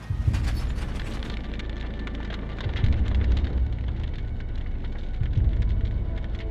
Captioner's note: railway line clanking; fire crackling; tense sparse music